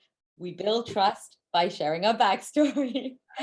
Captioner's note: chuckles